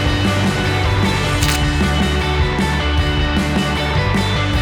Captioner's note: upbeat music; shutter snaps